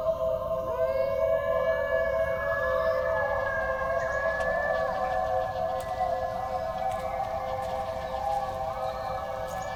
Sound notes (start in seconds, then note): 0.0 the animal howls continue